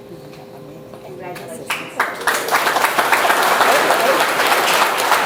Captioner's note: audience applauds